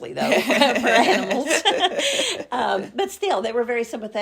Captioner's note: laugh